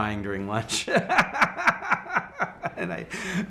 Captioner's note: laughing